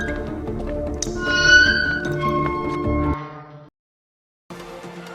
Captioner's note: gate being closed